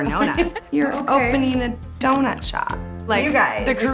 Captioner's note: laughs